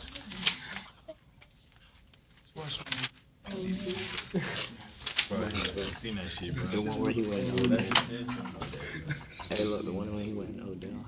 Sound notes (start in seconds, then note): 0.7 students murmur; 4.1 papers rustle; 7.6 students murmur